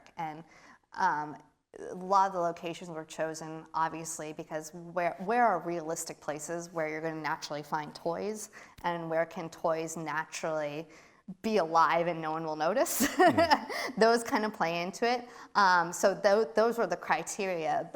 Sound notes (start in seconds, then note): 13.0 laughs